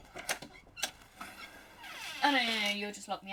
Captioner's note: door opens